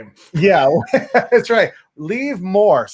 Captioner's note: laughs